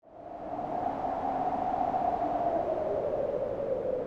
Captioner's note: wind howling